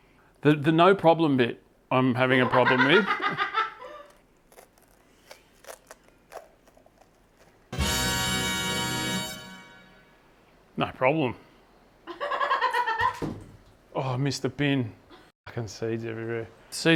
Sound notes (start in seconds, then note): 12.1 laughing